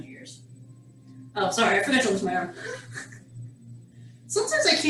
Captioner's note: chuckles